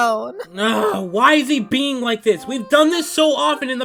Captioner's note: frustrated groan